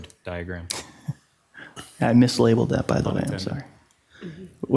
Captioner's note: chuckles